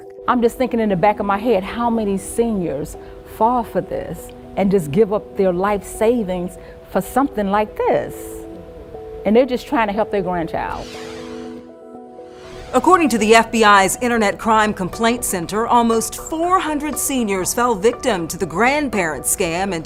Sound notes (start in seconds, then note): 10.7 logo swooshing